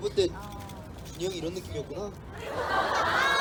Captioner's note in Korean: 웃음